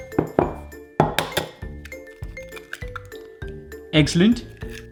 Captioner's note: egg breaking